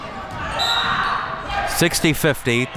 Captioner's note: whistle blows